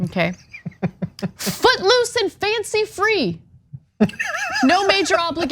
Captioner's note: laugh